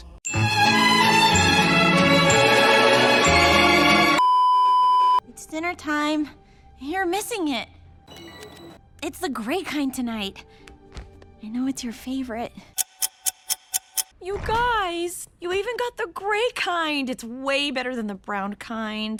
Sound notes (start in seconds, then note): 4.2 beeeeeeeeeeeep; 12.8 clock ticking + reverse clock ticking